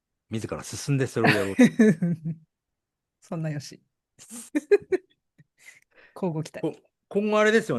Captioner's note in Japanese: 笑い